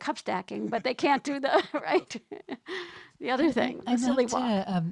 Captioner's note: laughs